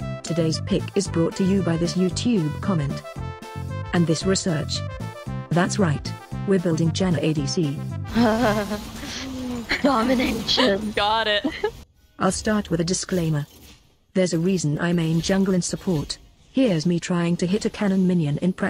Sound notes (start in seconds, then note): 8.1 laughing